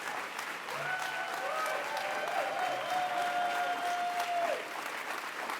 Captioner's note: audience cheers and applauds